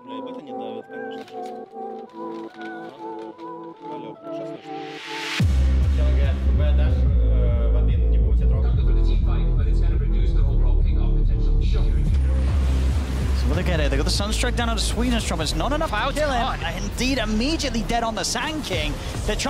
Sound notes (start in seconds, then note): 0.1 speaking in Russian; 5.9 players speaking in Russian